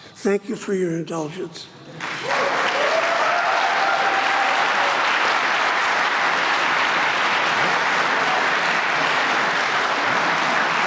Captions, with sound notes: Thank you for your indulgence. [APPLAUSE]